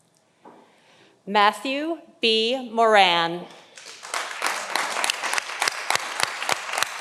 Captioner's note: audience applauding